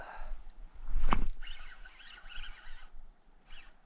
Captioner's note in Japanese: フッキングする音